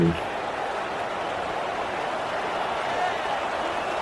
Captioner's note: crowd Noises